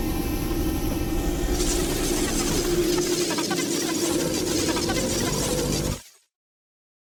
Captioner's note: growling and weird alien noises